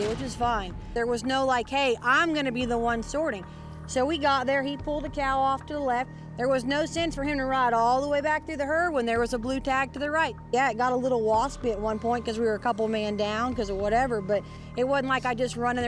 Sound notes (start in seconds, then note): none